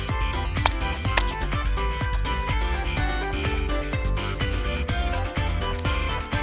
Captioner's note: splat!! Splat!!